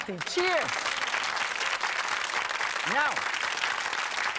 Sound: audience applauding

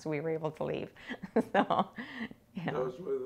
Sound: laughing

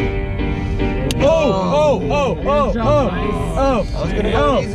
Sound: excited

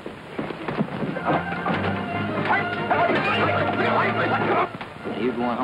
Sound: shouting

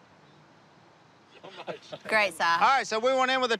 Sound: chuckling

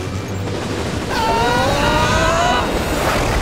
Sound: screaming

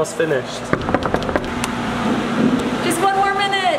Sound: knocking

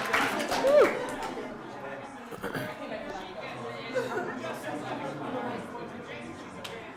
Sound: applause

